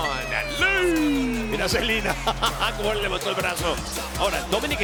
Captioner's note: laugh